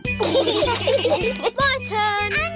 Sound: laughter

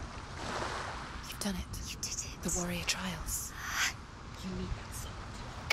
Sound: whispering

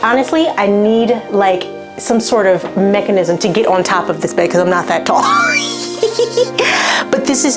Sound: laughs

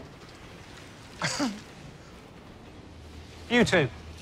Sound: chuckles

